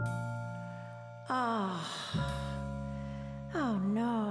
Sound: sighs

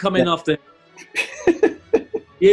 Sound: laughing

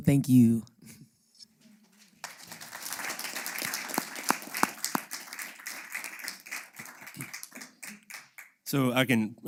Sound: applause; laugh

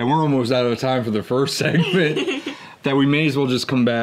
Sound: both chuckling

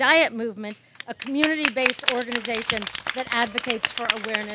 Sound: audience claps and cheers

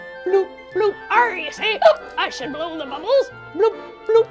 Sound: hiccups

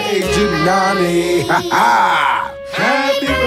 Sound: laughing

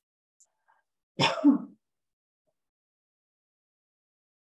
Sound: coughs

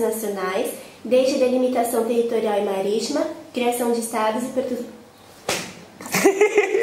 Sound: laughs

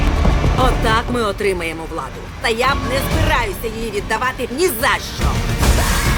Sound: in English

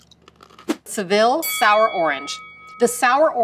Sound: bell dings

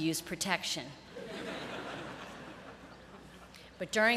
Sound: laughter

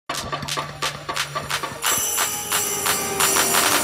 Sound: globe spinning; christmas music

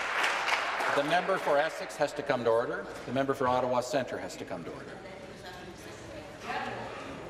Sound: applause

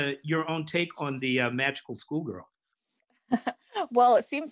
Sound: laughs

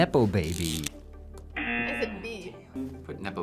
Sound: buzzer

